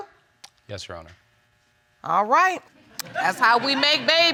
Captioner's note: audience laughing